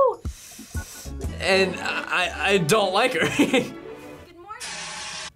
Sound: laughs

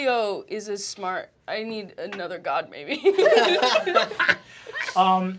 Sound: laughter

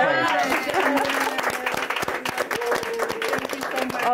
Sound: all applauding

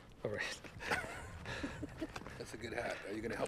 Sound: Jeff laughing

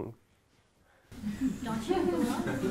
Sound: laughter

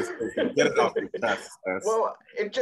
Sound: laughs

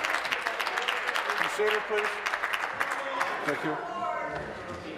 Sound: applause

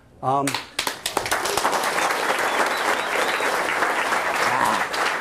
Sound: cheers and applause

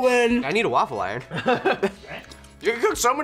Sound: laughs

